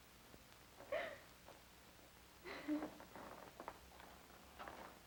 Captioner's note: Julia sobbing